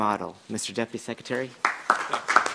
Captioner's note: applause